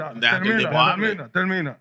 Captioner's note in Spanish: Hablando en idioma extranjero